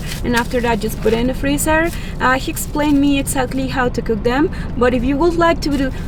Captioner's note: none